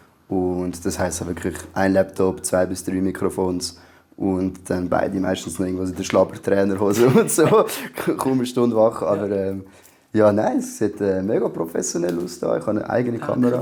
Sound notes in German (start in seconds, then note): 6.9 lacht